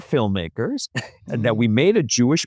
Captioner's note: laughs